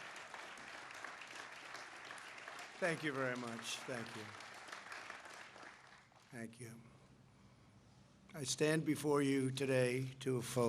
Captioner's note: applause